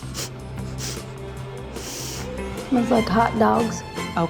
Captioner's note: sniffing